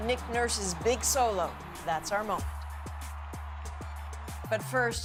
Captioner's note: cheers and Applause